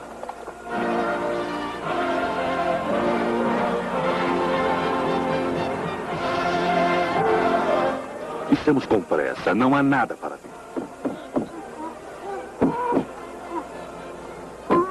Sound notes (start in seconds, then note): 10.4 banging and muffled shouting